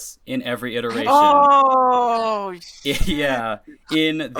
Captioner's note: realization sounds